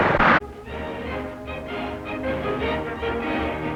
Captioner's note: propeller spinning